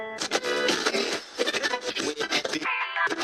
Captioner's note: radio Station Search Sound